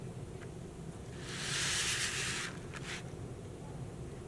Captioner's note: paper rustling